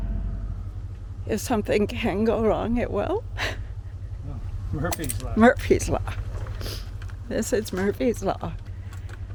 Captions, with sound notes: If something can go wrong it will? [laughs] Oh, Murphy's Law Murphy's Law. This is Murphy's Law